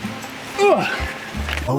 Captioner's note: grunting